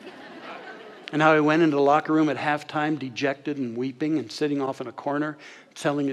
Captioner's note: audience laughter